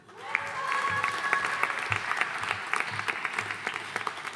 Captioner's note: audience applauding